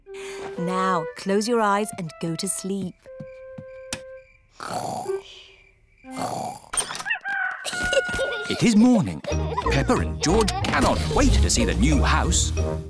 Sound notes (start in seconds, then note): 4.0 both snoring; 7.0 rooster crowing